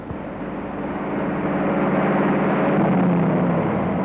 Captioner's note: car engine revving